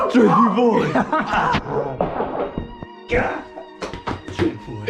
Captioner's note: both laugh